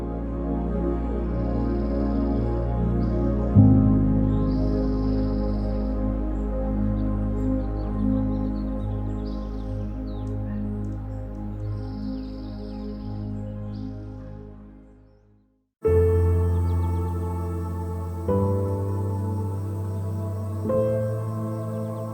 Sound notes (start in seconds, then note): 0.2 birds chirping; 0.2 gentle music; 15.8 serene music; 15.9 birds chirping